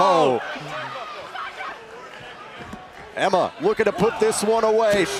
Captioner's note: crowd chatter